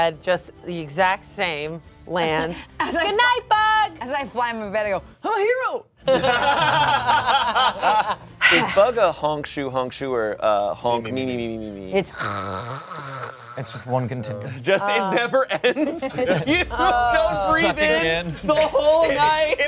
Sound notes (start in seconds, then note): 6.1 everyone laughs; 12.1 snores